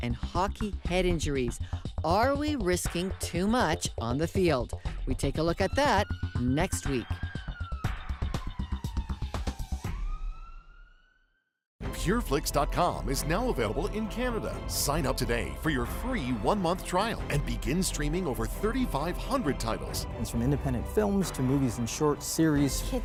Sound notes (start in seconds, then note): 7.0 sirens